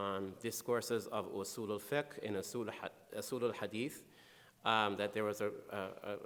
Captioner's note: speaking in foreign language